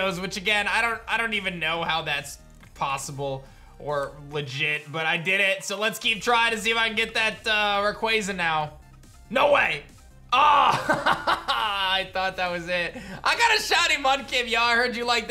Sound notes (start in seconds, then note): 10.5 laughs